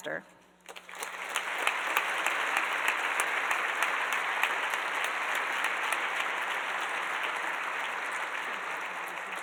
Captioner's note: applause